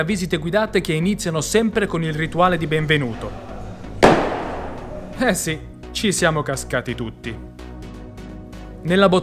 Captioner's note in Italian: sbam!